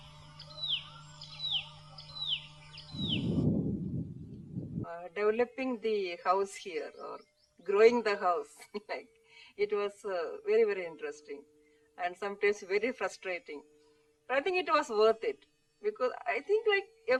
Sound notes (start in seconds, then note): 8.4 laughs